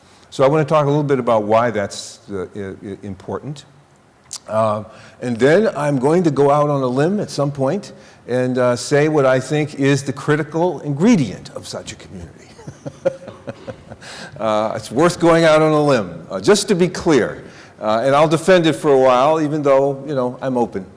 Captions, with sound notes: So I want to talk a little bit about why that's important. And then I'm going to go out on a limb at some point and say what I think is the critical ingredient of such a community [chuckling]. It's worth going out on a limb. Just to be clear, and I'll defend it for a while, even though, you know, I'm open.